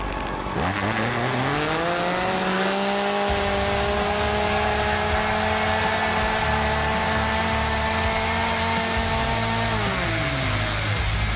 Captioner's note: engine revving